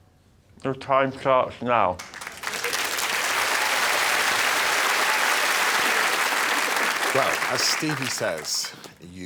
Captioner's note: chewing